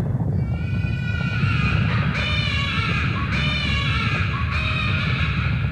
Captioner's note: baby crying sound